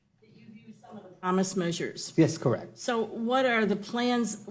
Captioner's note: off microphone